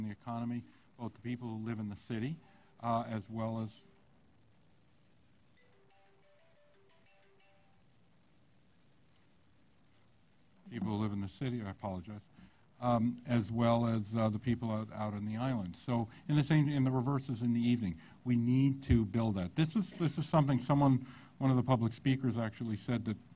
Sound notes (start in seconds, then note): 8.9 cell phone ringing